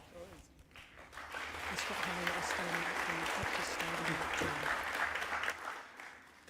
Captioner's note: applause